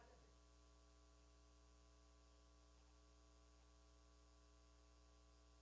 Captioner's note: person speaking away from mic